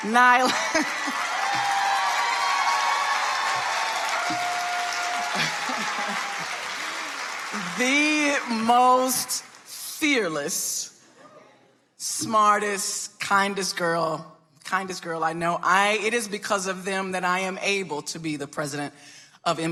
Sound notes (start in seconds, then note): 0.3 Laphonza laughs; 0.5 audience applauding